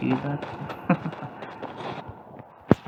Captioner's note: chuckles